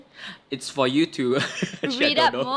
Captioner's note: giggles